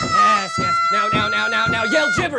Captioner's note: Leah screams and pounds the desk